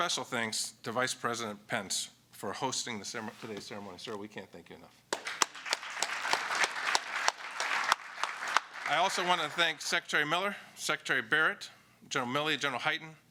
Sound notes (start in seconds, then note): 5.1 applause